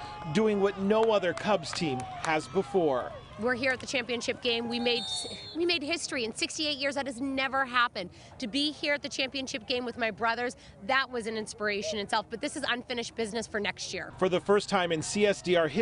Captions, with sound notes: [CHEERING AND APPLAUDING] HISTORIC HIGH SCHOOL FOOTBALL SEASON TO BE PROUD OF, RIVERSIDE PLAYERS DOING WHAT NO OTHER CLUBS TEAM HAS BEFORE. WE ARE HERE IS A GAME, WE'VE MADE HISTORY AND 68 YEARS,